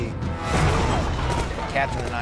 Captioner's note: explosions and gunfire